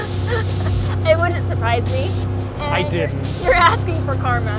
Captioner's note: laughs